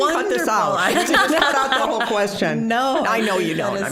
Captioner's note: all laughing